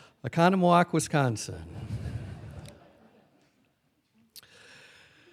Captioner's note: laughing